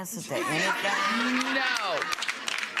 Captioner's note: audience laughing